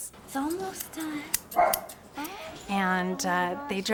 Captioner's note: dog barking